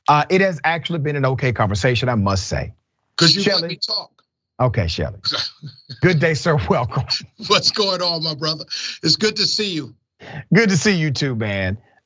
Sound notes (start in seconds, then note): 5.2 laugh